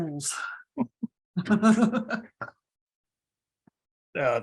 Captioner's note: laughs